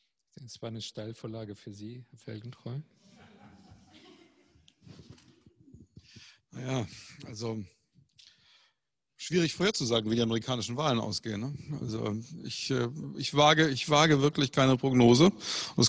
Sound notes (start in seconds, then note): 3.0 laughter